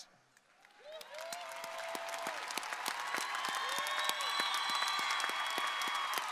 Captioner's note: crowd applauding; crowd cheering